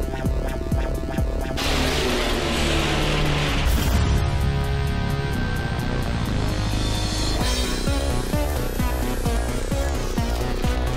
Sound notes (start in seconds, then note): 3.9 Sentry clangs; 7.8 upbeat synth music